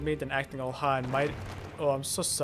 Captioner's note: another pile shatters